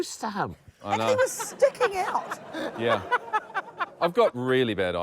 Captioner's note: josh laughs